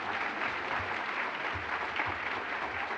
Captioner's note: applause